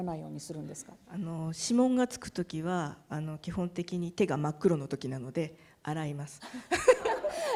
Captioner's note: speaking japanese; laughter